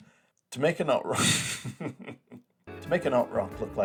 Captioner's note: laughs; laughs more